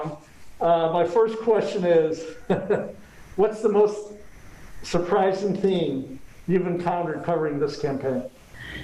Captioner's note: chuckle